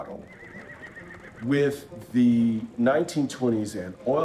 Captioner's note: horses whinnying